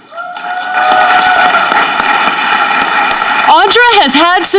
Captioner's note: audience clapping